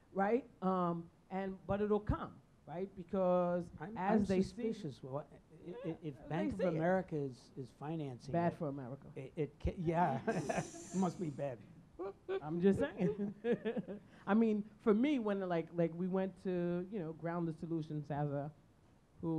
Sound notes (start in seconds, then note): 12.0 chuckling